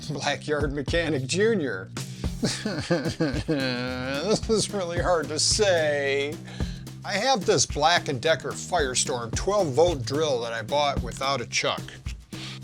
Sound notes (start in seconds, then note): 3.0 fake cry